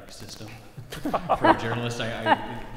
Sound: laugh

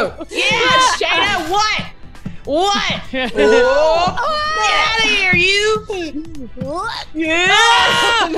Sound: laugh

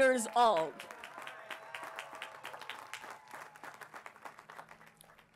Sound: applause

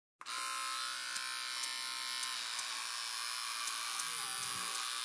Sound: electric razor buzzing

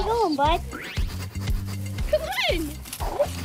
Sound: sniffing

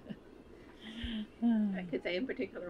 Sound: laughs

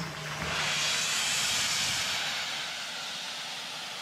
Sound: hissing

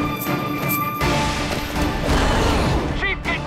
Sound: grunting

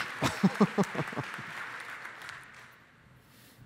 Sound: chuckles

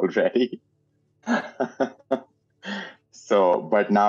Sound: laughing

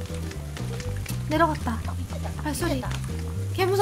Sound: the sound of footsteps downstairs

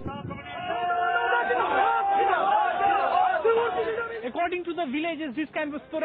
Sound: yelling in foreign language

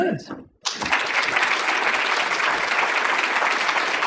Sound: applause

